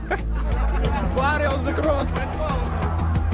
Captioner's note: laughing; man speaks in foreign language